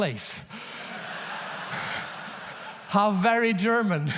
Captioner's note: audience laughs loudly; laughs